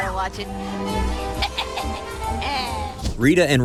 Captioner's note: laughs